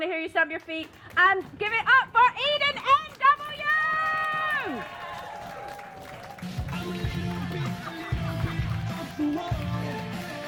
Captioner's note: applause